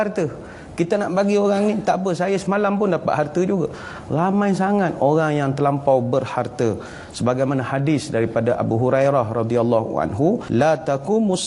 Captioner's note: arabic narration